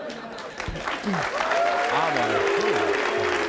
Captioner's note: audience clapping